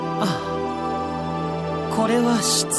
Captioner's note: none